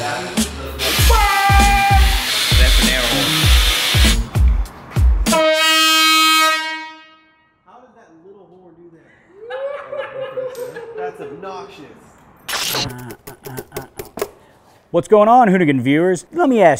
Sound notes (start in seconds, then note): 5.2 airhorn blares; 9.1 laughing